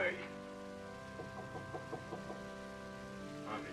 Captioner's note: knocking at door